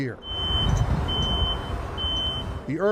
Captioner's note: beeping